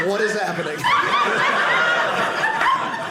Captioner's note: audience laughing